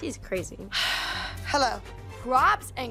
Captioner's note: sighs